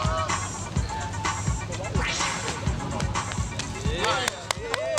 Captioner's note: onlookers cheer